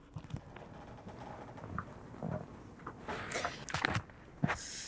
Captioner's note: chair creaking